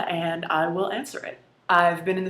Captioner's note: none